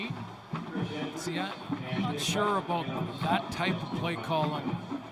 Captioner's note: whistle